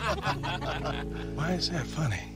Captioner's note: laughter